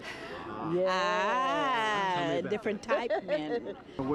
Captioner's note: laughter